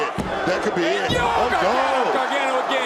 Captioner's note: crowd shouts "one, two"